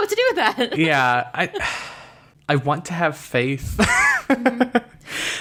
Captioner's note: sighs; laughs